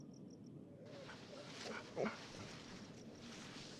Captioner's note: soft bark